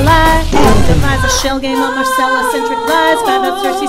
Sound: boom!

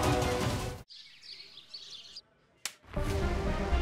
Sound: birds chirping; tense music playing

